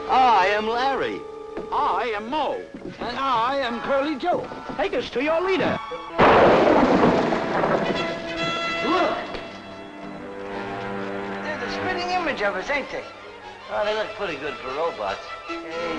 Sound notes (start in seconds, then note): 6.1 bangs